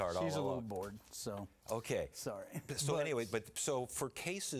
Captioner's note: laughter